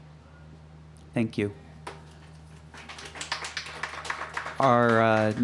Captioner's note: clapping